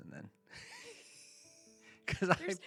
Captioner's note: laughter